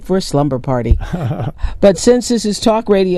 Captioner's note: chuckles